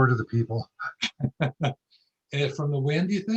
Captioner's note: laughs